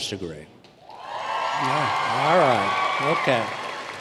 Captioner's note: cheers and applause